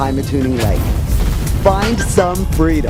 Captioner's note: explosion